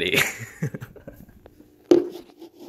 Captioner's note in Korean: 웃음못참ㅋㅋㅋ